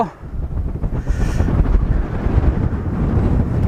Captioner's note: windy